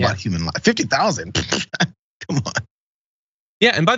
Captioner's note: laugh